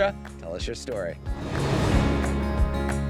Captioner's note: graphics whooshing; light upbeat music